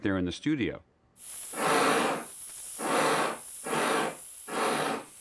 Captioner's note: chuffing